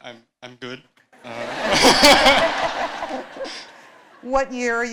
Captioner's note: laughter